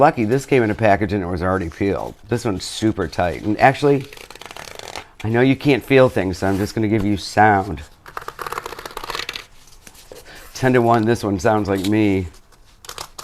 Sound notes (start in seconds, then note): 4.2 cardboard grates; 7.4 cardboard grates